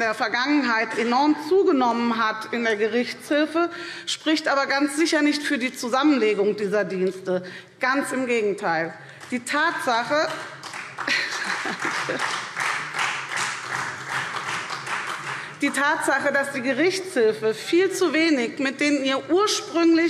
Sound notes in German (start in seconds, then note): 10.2 Beifall SPD